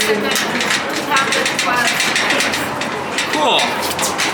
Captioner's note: elevator rattling